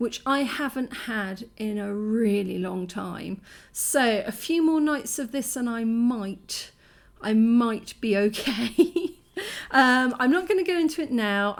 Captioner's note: laughing